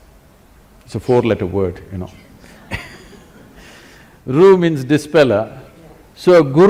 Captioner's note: laughs